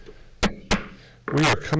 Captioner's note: gavel bangs